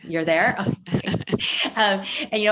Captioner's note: laughter